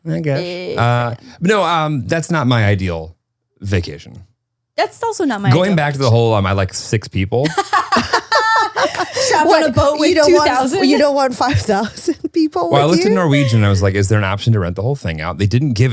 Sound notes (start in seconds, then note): 7.4 laugh; 9.0 claps hands